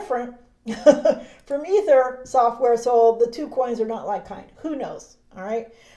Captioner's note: chuckles